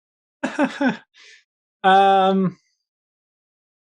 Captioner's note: chuckles